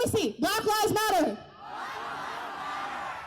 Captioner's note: crowd: Black lives matter